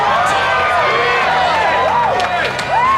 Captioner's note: crowd cheering